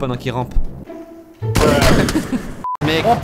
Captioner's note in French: boom boom